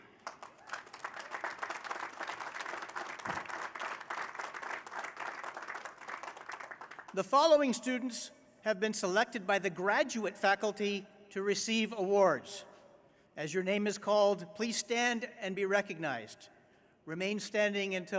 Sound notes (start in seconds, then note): 5.7 applause